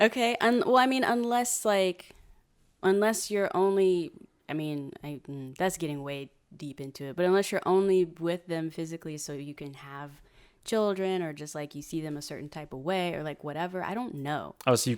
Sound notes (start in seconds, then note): none